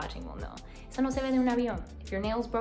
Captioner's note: speaks in foreign language